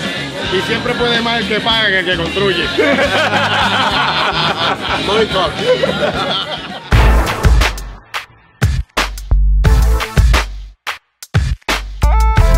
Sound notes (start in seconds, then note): 2.7 laughter